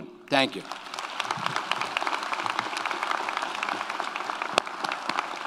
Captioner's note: audience applauds